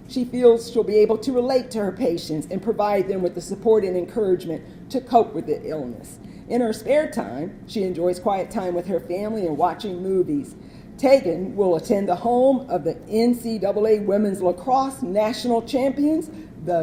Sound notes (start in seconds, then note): none